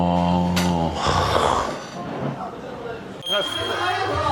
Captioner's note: sighs